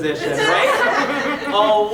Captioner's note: audience laughing